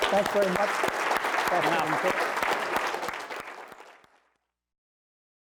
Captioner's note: applause